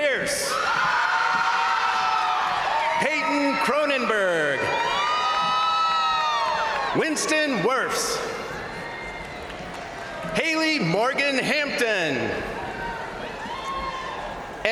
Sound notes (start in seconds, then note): 0.3 crowd cheering; 0.6 crowd applauding; 4.4 crowd cheering; 8.0 crowd applauding; 8.1 crowd cheering; 12.8 crowd cheering